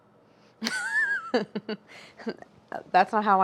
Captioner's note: laughing